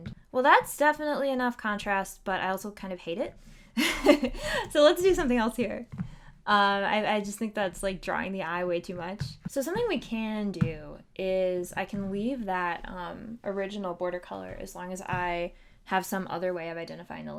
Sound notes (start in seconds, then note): 3.8 laughter